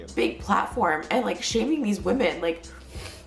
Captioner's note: sniffles